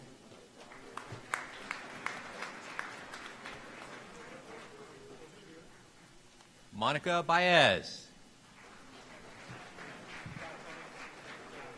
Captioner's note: applause